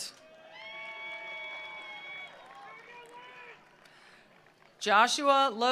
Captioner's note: attendees cheering; attendees applauding